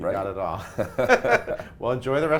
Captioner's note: both laughing